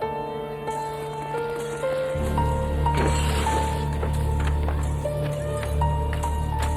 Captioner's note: tires crunching; glass shattering